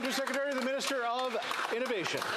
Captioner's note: some Applause